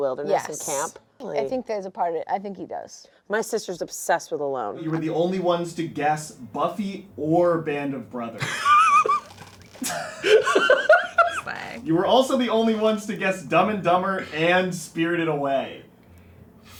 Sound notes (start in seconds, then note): 9.8 laughing